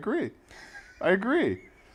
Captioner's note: laugh